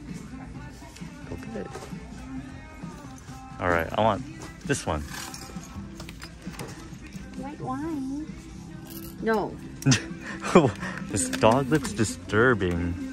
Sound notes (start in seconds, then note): 0.2 christmas music plays; 9.8 laughs